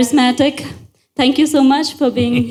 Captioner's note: Sadhguru laughs